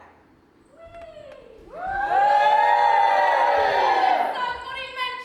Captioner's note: audience cheers